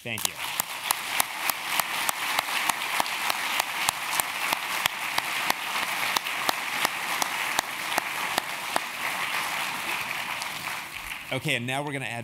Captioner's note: applause